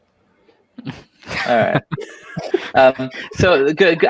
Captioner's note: all laughing